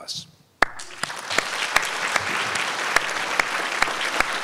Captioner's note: crowd applauds